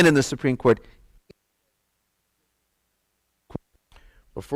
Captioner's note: audio Cuts Out